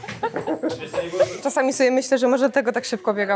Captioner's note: laughs